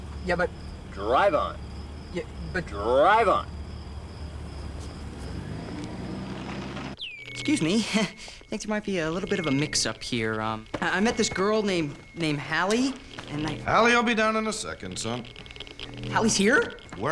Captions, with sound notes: YEAH, BUT-- DRIVE ON. YEAH, BUT-- DRIVE ON. [ Wand Beeping ] EXCUSE ME. THINK THERE MIGHT BE A LITTLE BIT OF A MIX-UP HERE. I-- I MET THIS GIRL NAMED-- NAMED HALLIE, AND-- HALLIE WILL BE DOWN IN A SECOND, SON. HALLIE'S HERE ?